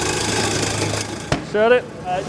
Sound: loud grinding

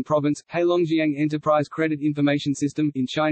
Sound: in Spanish

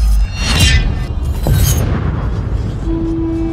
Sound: explosion; war horn

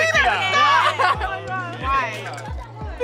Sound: all exclaiming

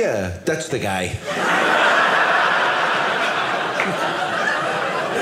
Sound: audience laughing

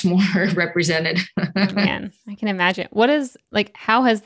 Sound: laughs

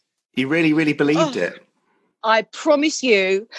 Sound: male Voice

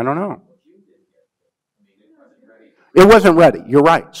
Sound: man speaks faintly

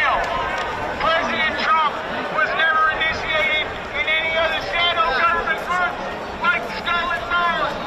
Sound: crowd noise

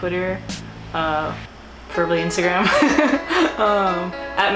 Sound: laughs

